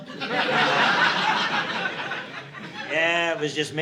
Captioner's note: audience laughing